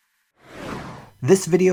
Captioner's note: techno zoom